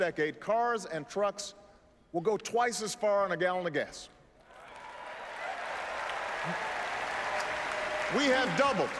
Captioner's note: applause